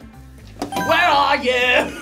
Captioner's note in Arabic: قرع الجرس